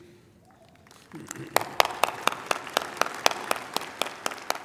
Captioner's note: applause